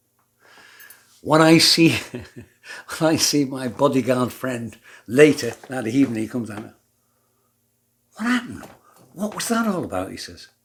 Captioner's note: laughs